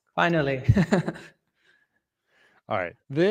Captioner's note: laughs